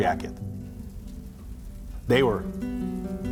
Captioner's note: fire crackling